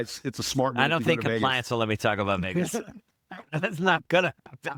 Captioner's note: laughing